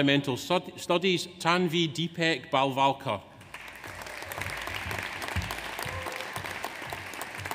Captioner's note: audience applauds